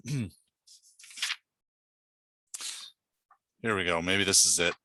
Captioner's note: clears throat